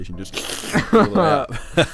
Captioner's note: slurping sound